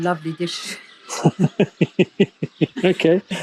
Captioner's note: both chuckle